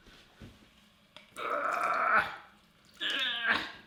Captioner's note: groans